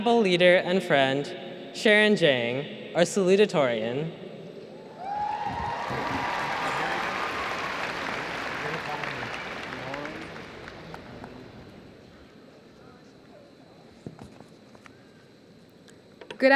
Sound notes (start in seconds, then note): 8.7 applause